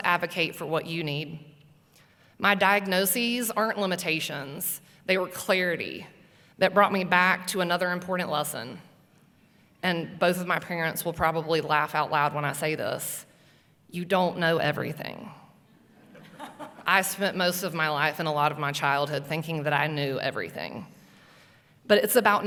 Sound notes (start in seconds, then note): 16.0 laughing